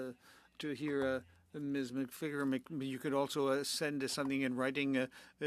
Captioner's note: speaking French